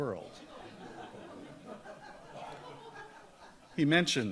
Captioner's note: audience laughs